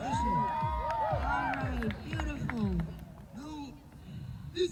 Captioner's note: cheers